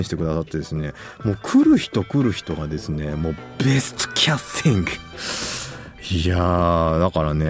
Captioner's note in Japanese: 鼻息